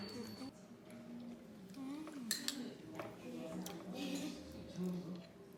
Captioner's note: chowing down